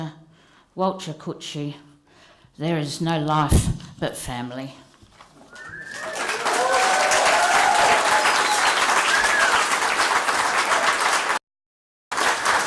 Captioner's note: cheering and applause